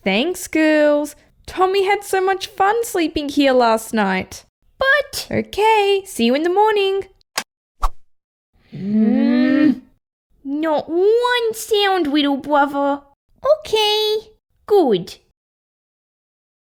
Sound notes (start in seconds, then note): 7.4 click!